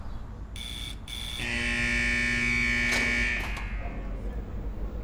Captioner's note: siren and then sound of gate unlocking